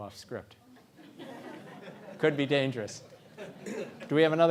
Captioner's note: laugh